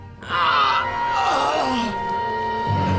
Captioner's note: screams